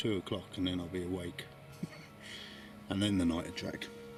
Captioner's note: laughs